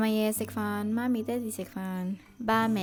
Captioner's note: Cantonese